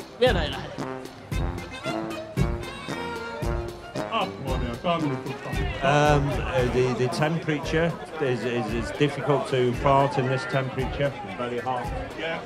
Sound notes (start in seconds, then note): 7.7 cheers; 10.7 speaking in Finnish